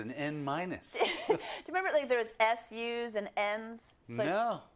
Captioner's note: laugh